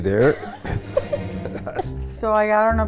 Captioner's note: laughing